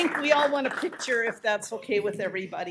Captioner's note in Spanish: Aplausos